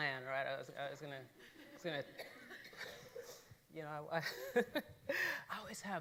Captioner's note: laughing